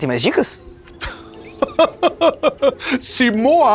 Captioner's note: Chico laughs